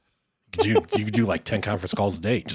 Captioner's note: laughing